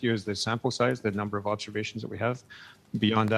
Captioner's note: speaking French